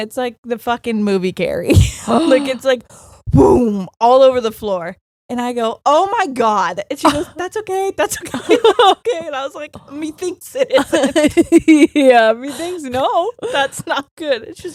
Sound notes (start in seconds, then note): 2.9 gasping; 8.2 both laughing